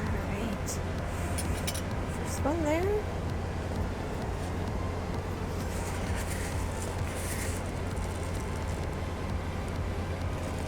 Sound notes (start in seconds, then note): 4.4 soft music; 5.6 oats grinding